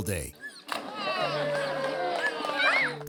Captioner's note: people cheering; water splashes